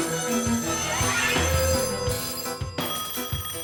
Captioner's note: phone ringing; different phone ringing